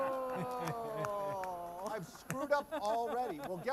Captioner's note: laughter; groaning